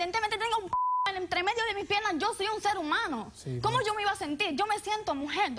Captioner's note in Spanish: Bip